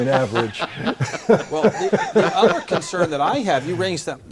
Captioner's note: laugh